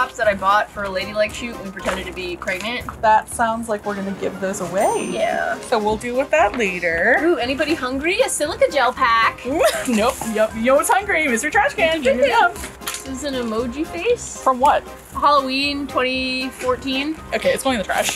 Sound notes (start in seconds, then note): 9.4 laughs